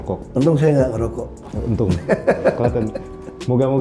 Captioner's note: laughing